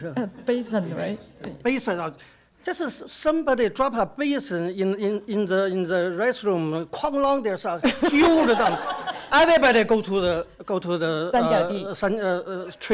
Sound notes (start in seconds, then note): 0.0 speaks Mandarin; 6.9 speaks Mandarin; 11.3 speaks Mandarin